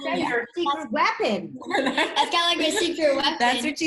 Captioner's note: group laughs